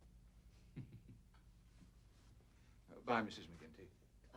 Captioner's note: Frank laughs quietly